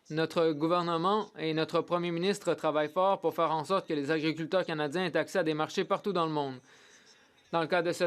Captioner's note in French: voix de l'interprète